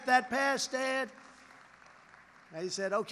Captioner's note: applause